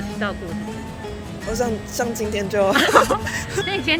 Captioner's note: laughs in tardiness